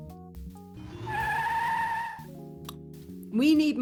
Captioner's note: tyres screeching